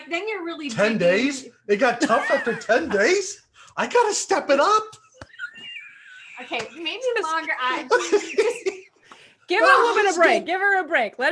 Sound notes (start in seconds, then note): 5.0 laughs; 7.4 murmurs; 7.7 laughs